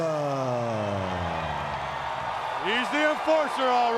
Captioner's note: crowd cheering